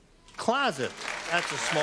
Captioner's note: applause